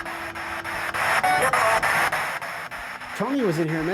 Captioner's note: spirit box voice